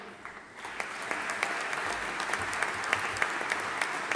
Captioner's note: audience applauding